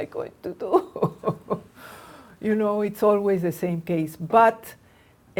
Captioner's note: laughs